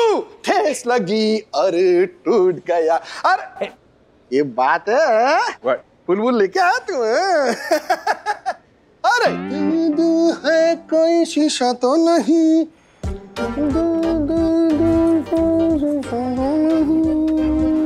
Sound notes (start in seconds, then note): 7.4 laughs